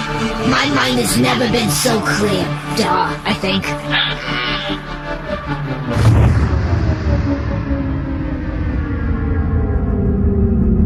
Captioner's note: exits hyperspace